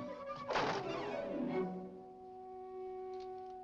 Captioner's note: door slams shut